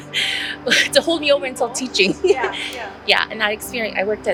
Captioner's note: laughs